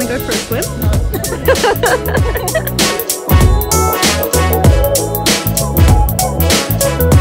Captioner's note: both laughing